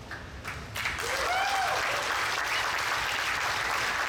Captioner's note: audience applauds